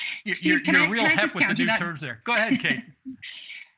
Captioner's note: laughter